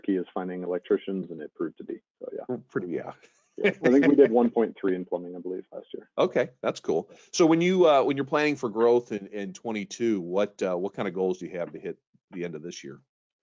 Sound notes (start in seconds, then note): 3.6 laughs